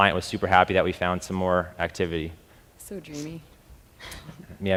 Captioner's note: laughs